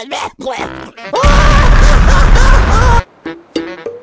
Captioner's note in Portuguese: grito mais estranho que o do mario